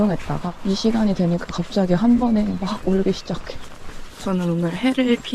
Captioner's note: birds